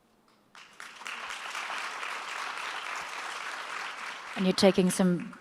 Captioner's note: audience applauds